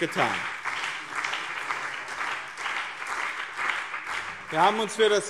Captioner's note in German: Beifall BÜNDNIS 90/DIE GRÜNEN und CDU